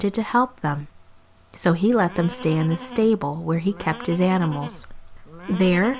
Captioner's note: sheep bleating